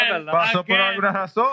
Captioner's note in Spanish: Hablando en idioma extranjero